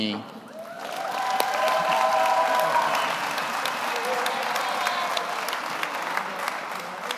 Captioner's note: audience cheers; audience applauds